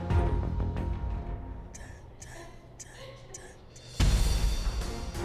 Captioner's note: whispering